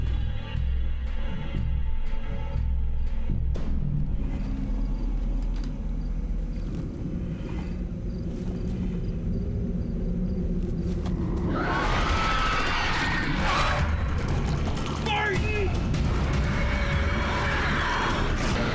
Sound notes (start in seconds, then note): 7.0 growly breathing; 11.5 screech; 13.3 growling and screeching; 16.0 roaring